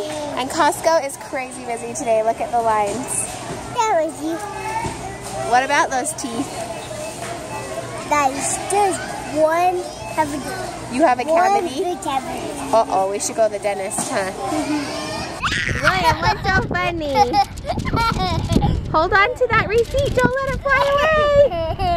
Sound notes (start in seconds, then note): 17.1 laughs